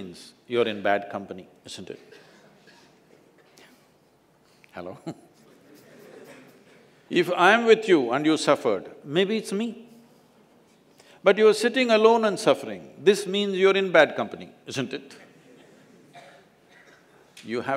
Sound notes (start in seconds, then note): 5.0 laughs